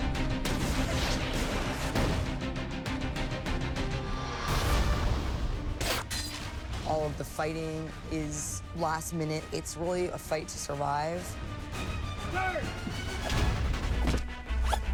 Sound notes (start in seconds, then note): 12.0 man shouts